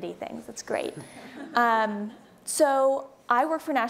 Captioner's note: audience laughing